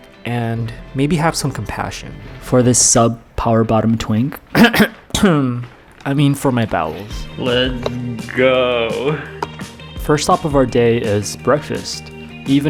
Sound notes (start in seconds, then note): 4.5 clears throat